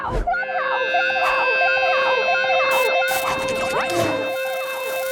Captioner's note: echo ringing